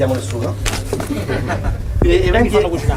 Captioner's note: laughing